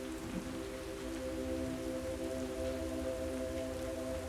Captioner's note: rain pattering